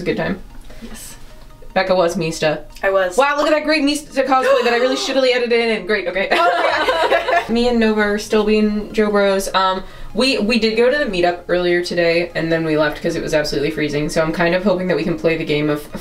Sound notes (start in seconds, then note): 6.3 laughter